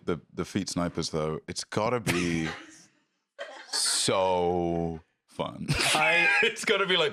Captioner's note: laugh